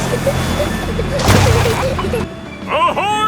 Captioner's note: peppa and george giggling